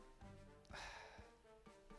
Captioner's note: sigh